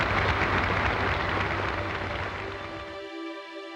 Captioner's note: applause